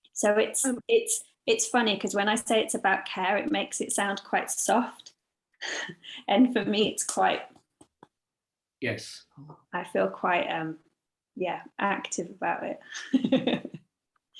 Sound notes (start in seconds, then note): 13.1 laughs